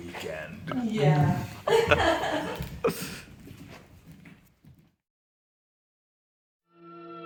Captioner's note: laughs; suspenseful music